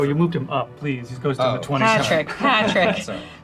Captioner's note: laughs